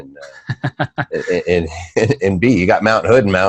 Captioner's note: laughing